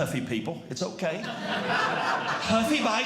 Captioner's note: audience Laughing